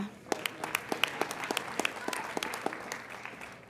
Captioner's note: applauding